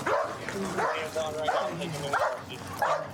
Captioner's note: dog barking